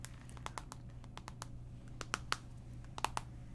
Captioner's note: tapping on phone